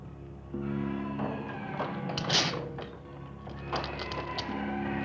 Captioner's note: door clattering